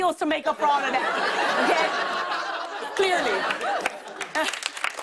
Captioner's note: laughter; applause